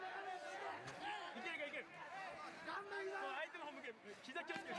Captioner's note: cheering